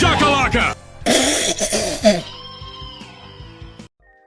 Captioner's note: spits